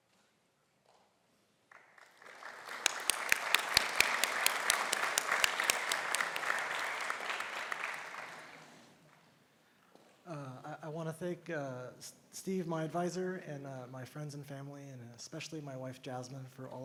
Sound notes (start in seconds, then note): 1.7 audience applauding